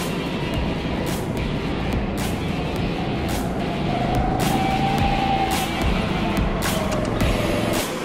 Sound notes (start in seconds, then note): 0.1 engine dies